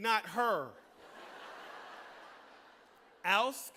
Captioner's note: laughter